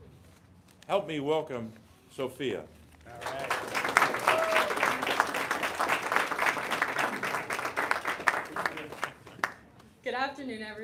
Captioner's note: applause